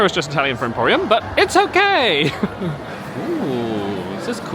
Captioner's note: laughs